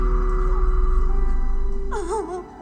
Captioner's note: mother cries